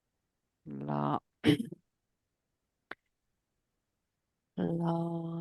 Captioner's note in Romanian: voce dreasă